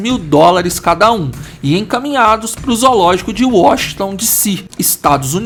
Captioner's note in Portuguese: fala em inglês